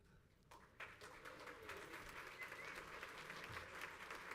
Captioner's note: crowd applauds